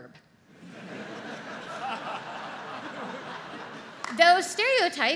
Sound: audience laughs

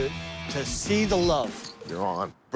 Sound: bracelets rattling

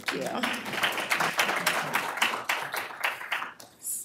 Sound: applause

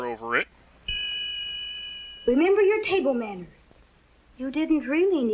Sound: ding!

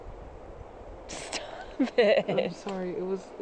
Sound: laughs

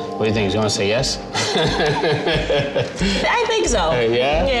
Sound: laughing

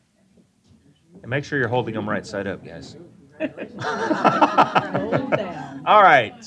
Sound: laughing

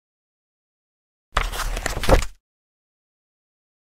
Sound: book closing

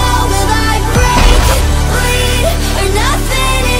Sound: wall breaks

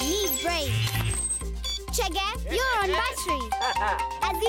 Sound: beeping

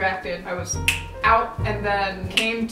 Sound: fingers snapping; fingers snapping

